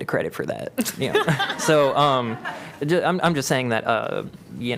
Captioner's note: laughter